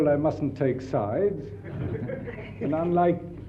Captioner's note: audience laughs